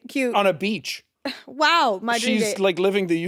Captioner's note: scoffs